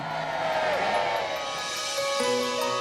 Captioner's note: cheering